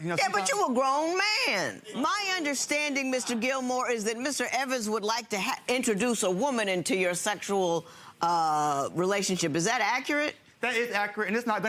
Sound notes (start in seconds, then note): none